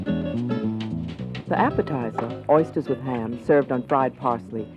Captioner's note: voiceover